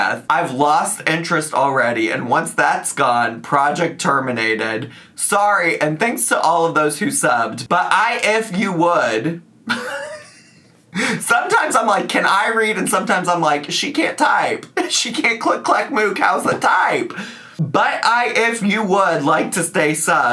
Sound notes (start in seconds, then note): 9.7 laughs